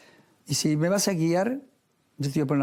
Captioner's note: none